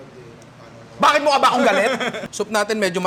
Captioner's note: laughs